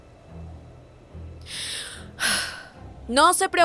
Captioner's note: takes deep breath